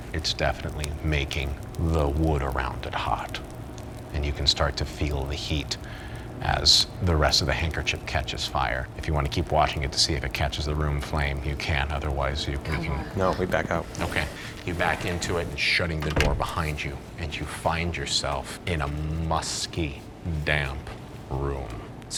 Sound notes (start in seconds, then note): 15.9 door closes